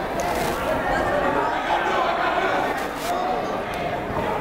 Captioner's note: chattering